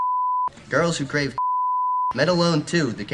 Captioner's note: beep